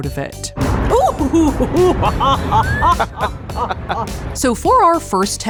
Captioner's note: laughing happily